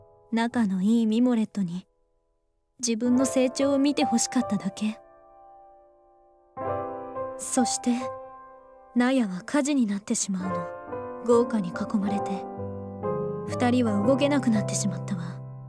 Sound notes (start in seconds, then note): 6.0 longer pause